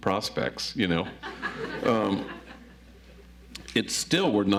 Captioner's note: audience laughs